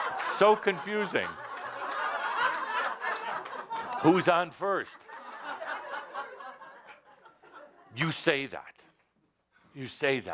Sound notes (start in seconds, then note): 0.0 laughter